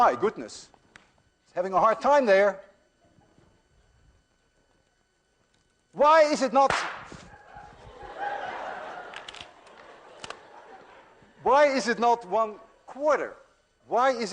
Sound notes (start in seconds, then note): 6.6 balloon pops; 9.6 class laughs